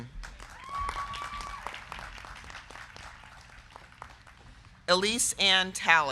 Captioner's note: crowd clapping; crowd cheering